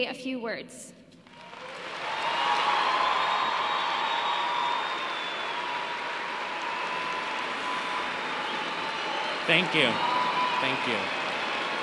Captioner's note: applause